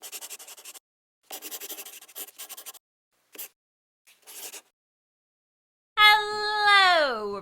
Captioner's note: the sound of a pen scratching